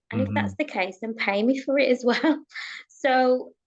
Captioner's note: chuckles